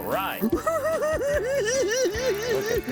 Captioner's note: cackling